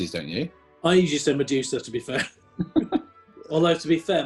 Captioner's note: laughing